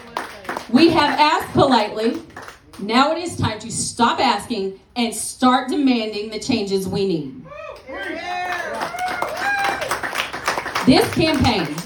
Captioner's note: applause